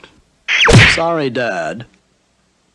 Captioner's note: smack!